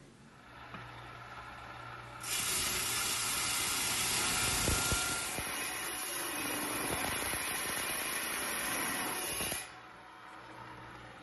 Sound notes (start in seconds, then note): 2.5 saw whirring